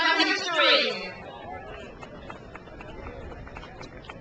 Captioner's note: crowd applauds